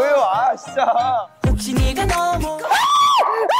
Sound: the yelling sound that filled the studio

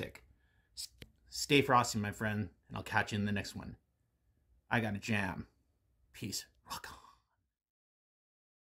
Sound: whispers

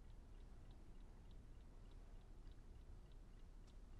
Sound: clock ticks

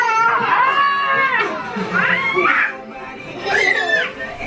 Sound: screaming

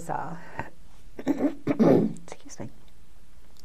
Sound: clears throat

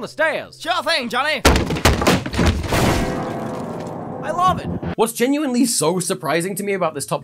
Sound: tumble + piano impact

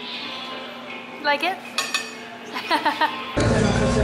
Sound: laughter

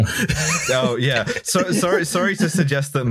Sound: laughter

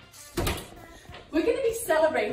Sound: door closes

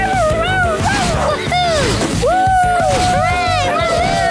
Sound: cheering

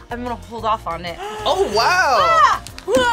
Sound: React gasps

